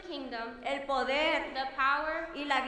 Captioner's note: speaking in foreign language